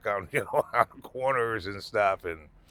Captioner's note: laughing